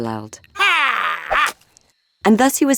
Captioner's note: Saul roaring